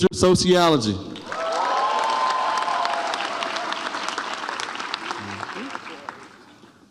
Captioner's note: audience applauds and cheers